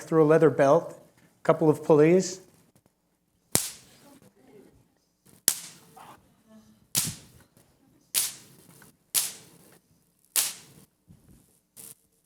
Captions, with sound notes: through a leather belt, a couple of pulleys-- [ELECTRICAL SPARKS]